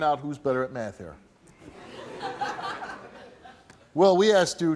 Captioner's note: audience laughs